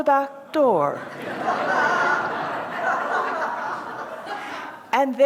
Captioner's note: laughter